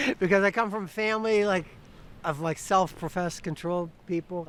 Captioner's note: laughs